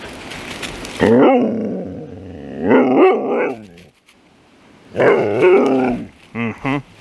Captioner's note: being sassy in husky